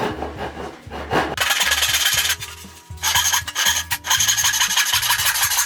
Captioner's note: sawing